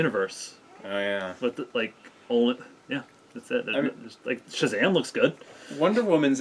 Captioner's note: stammering